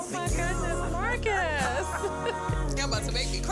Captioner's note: laughs